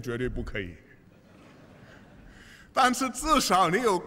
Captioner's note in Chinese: 笑声